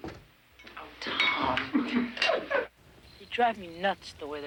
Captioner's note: men laugh